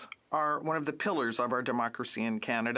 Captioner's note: speaking French